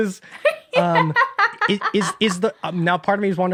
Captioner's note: laughs